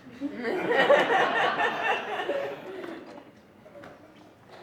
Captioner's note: audience laughs